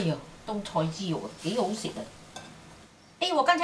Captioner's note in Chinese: 廣東話